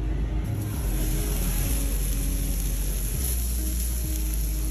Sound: steak sizzles

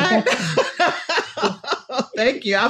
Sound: laughs

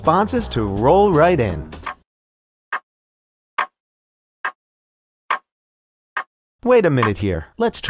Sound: clock ticking

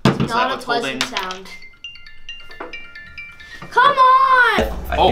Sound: alarm ringing

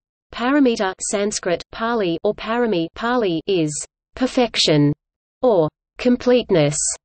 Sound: Pāli

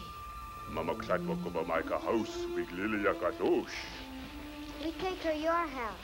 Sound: speaking in foreign language

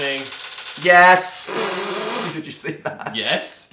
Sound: blows raspberry

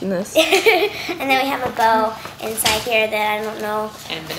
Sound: laughs

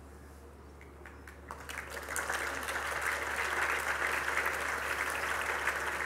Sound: applause

